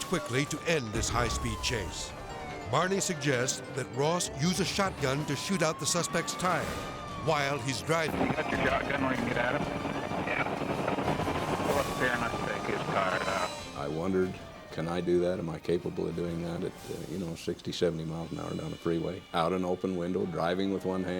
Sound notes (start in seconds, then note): 1.7 sirens blaring